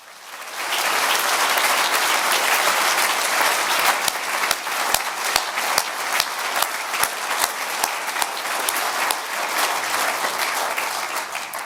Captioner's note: applause